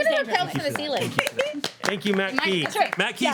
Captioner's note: applauding